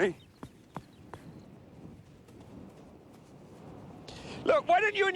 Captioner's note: wind howling